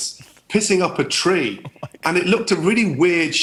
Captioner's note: laughing